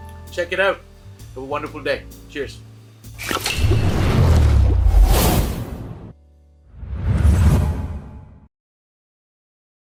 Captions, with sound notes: Check it out, have wonderful day. Cheers. (bubbles burbling) (air whooshing) (air whooshing)